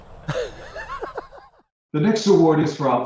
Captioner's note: laughs